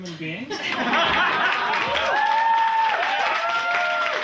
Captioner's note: audience cheering